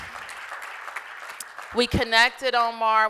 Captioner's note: applause